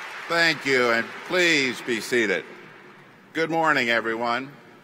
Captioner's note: applause